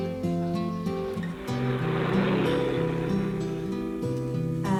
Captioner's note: engine rumbling